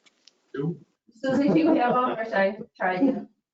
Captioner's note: male laughs